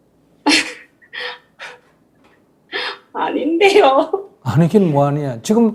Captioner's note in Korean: 질문자 웃음